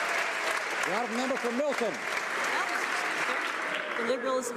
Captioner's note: some Applause